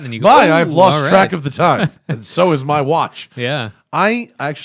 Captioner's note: laughter